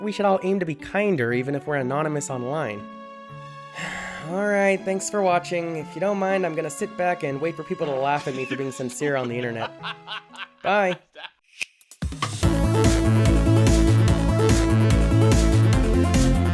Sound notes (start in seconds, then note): 3.8 sigh